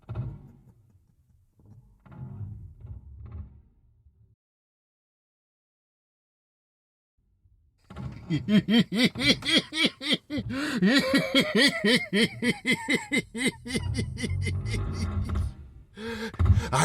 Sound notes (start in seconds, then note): 3.2 creaking overhead; 8.2 unhinged laughter